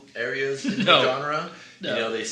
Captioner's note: laughs